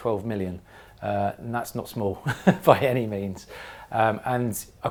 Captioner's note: laugh